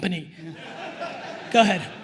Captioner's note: attendees laughing